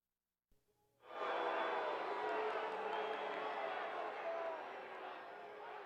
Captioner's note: jeering crowd